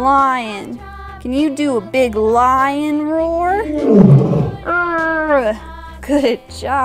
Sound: lion roars

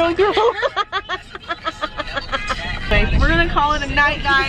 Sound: laughing

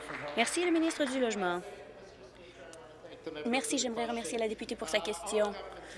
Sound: applause

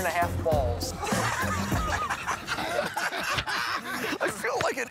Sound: laughter

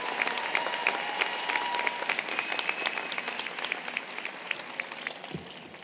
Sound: applause, Cheering

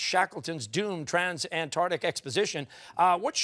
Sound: none

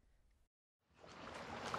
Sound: water flowing

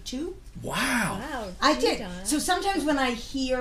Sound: voiceover

